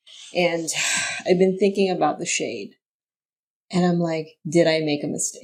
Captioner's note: sighs